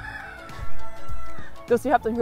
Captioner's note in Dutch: haan kraait in achtergrond